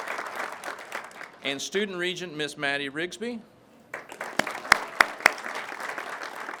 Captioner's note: crowd claps